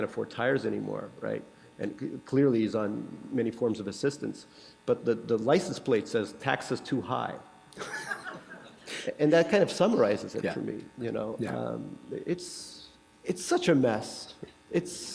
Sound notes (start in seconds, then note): 7.8 laughter